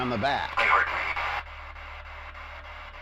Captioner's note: spirit box voice